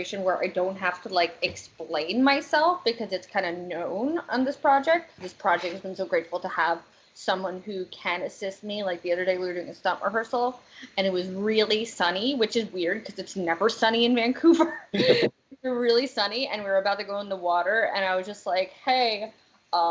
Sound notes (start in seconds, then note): 14.7 laughter